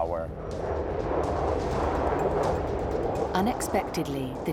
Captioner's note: aeroplane whooshing